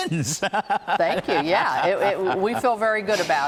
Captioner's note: laughter